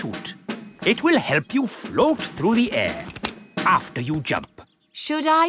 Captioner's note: clicking